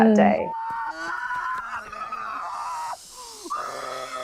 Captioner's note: shrieking